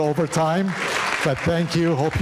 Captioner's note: audience applauding